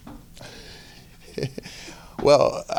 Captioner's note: chuckling